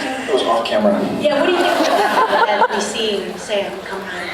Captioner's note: laughs